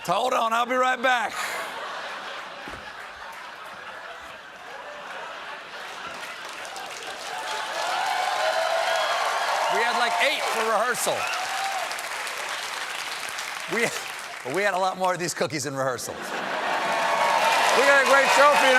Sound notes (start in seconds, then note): 1.3 laughter; 2.8 cheers and applause